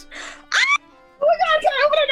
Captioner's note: screams